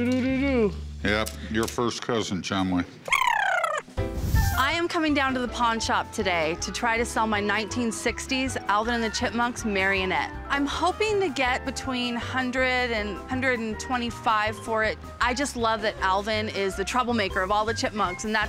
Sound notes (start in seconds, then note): 3.1 chipmunk chirp